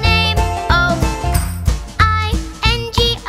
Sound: clap

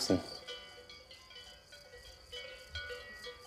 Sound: cowbells ring

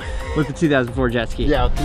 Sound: laughs

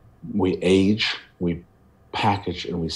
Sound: none

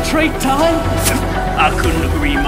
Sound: pffft

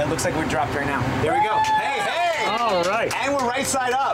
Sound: cheers

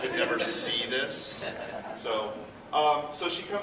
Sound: audience chuckles

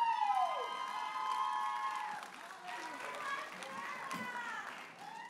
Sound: audience applauding and cheering

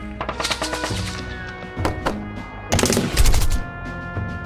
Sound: gun Shots

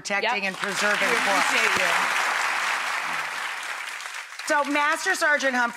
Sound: applause

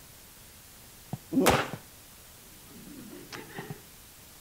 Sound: foot thuds

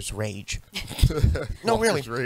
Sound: all laugh

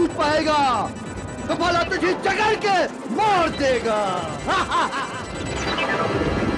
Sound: laughs

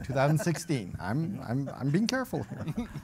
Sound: chuckling

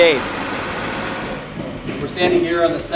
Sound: hammers banging

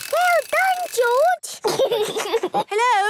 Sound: giggles

